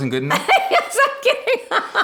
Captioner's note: laughing